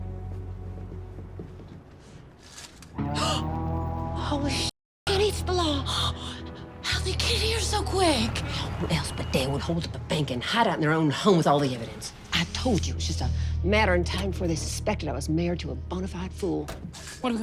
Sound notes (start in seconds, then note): 3.3 gasps